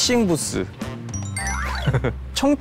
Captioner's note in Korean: 딩동댕